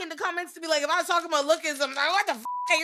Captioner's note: beep